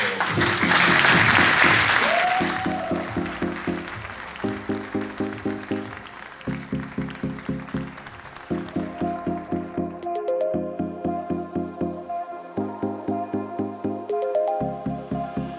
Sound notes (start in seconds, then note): 0.2 audience applauds; 0.2 upbeat instrumental music; 1.5 audience member cheers; 2.2 upbeat music continues; 11.2 upbeat music continues